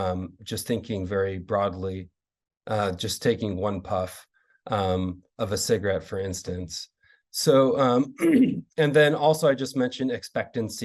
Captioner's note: clears throat